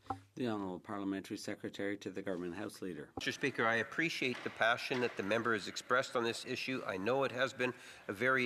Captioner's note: speaking French